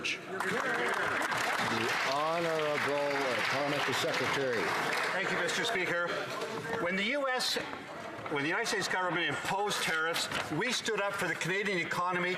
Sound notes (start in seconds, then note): 3.0 some Applause